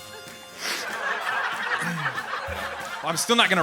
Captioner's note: audience laughing